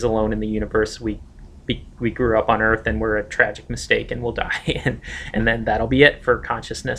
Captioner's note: laughs